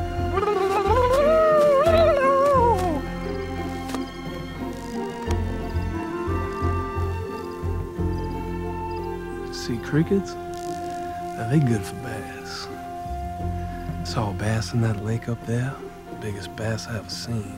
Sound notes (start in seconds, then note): 0.1 high-pitched blabbering; 3.2 crickets chirping; 5.2 chirping continues